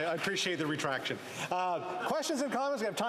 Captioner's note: applause